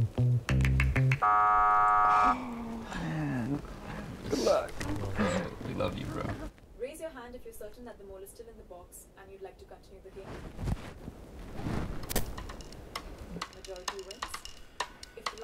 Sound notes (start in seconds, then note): 1.2 buzzer buzzes